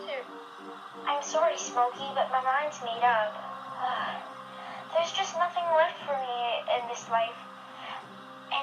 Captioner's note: sighs sadly